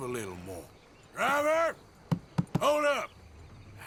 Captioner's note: knocks on the roof of the carriage